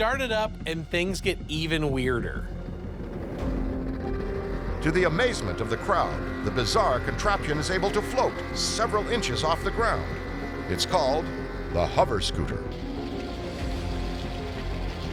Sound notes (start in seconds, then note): 2.3 engine rumbling; 13.0 dramatic music